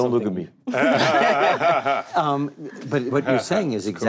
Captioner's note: group laughing